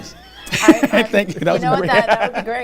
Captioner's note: laughs